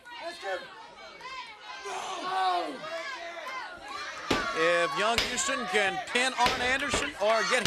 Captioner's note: crowd chatter